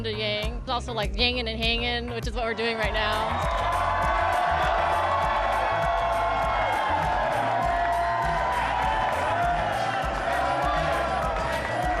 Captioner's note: cheering